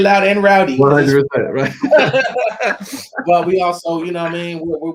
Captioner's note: laughing